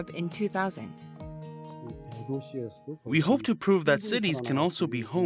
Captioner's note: Korean